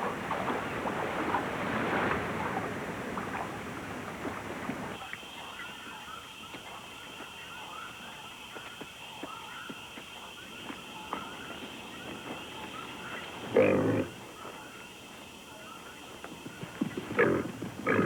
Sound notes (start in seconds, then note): 13.5 oink